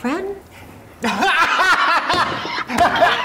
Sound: laughing

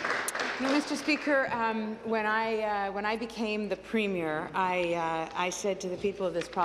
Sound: applause

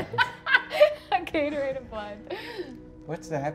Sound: laughs

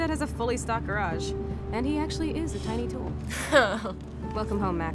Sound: chuckles

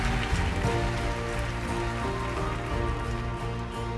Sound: applause

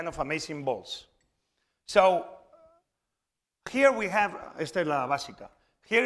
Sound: speaking spanish

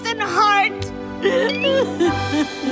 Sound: sobbing

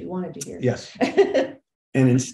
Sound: laughing

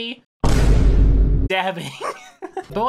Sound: Vine Thud; laughs

